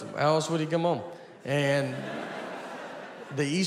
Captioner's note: audience laughing